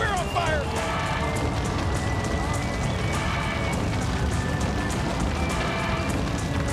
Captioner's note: upbeat music continues; fire roaring continues